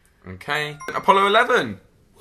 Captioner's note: chimes